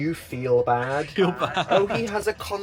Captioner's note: laughs